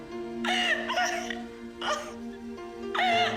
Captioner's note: crying